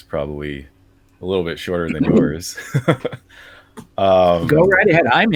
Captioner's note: laughs